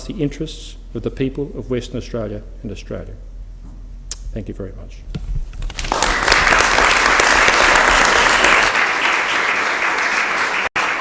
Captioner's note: applause